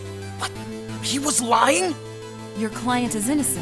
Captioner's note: whispering